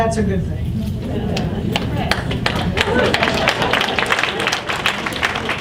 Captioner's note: audience applauds